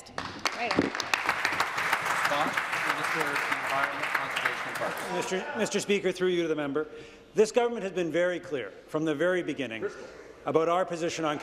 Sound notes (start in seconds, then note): 2.9 applause